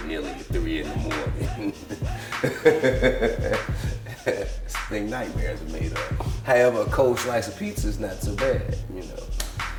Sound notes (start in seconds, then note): 0.7 laughs